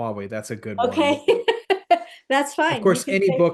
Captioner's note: laugh